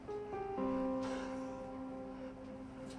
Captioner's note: exhales